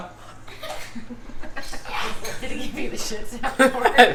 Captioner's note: kids laughing